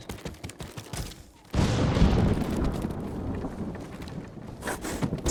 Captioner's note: thunder rumbling